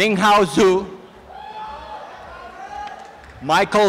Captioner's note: applause and cheering